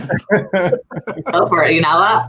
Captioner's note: hosts laugh